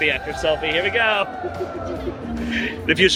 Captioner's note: laughing